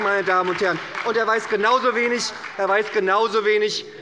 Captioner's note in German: Beifall bei der SPD